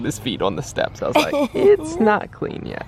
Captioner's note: laughing